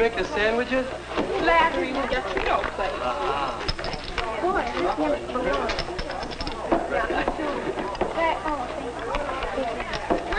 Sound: random chattering

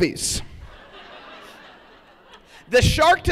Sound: laughter

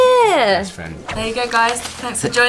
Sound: air whooshes

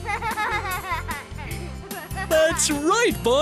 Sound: sound of children playing

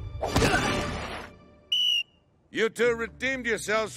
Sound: whistling

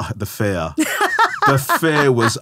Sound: laughing

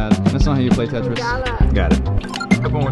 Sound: speaks foreign language

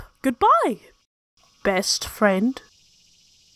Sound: ominous voice

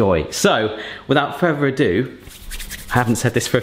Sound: hands rubbing together

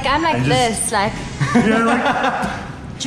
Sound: laughing

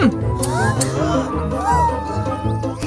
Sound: frightened sounds; clicking scissors

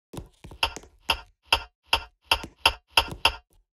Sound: bomb ticking

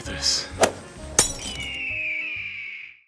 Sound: golf Club Thwacks; glass Smashes; eagle Screeches

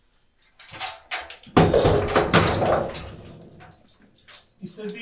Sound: chains rattling

